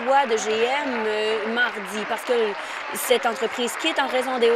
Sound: applause

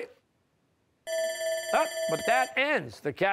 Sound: bell rings

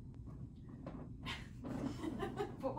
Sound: laughs

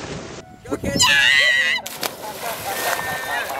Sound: screams

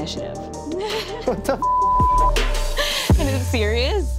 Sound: beep

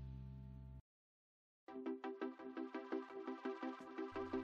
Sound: rising electronic sounds of whim

